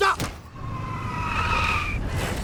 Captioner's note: tires screeching